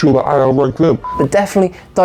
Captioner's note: beep